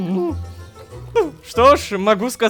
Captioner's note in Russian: Кх!